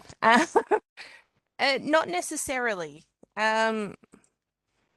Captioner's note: she laughs